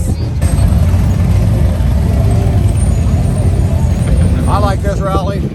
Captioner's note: motor cycle engine grumbling